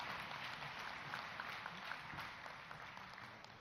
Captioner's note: applause